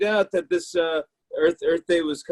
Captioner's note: none